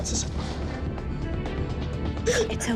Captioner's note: crying